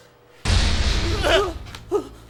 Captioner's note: loud clanking